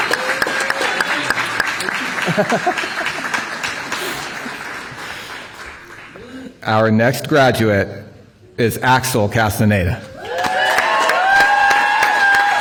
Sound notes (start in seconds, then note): 2.7 applause